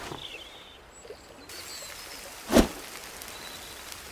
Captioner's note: sizzling